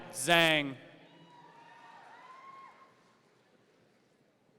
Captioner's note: audience cheering